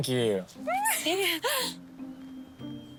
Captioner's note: laughing